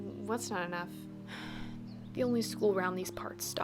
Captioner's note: sigh